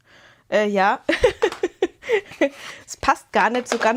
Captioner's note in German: Gelächter